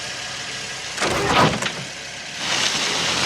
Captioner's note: thud